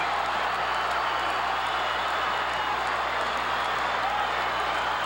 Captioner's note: audience cheering continues